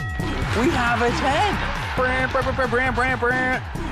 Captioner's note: mimics trumpeting